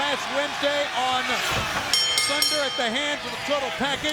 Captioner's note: bell ringing